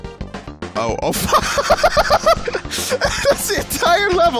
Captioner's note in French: rire